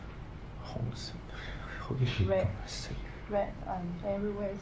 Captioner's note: speaking in Cantonese